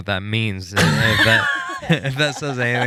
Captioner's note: laughing